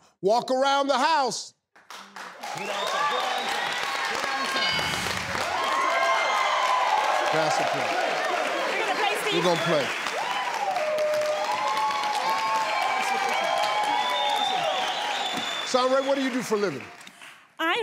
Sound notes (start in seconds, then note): 2.4 audience cheers; 10.1 audience cheers